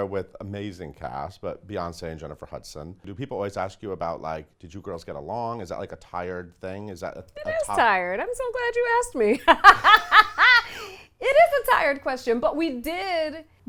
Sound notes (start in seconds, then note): 9.6 laughs